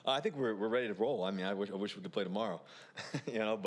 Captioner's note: laughs